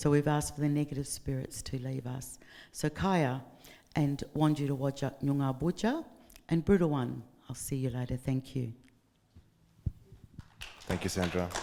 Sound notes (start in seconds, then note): 3.0 speaking in foreign language; 10.4 audience clapping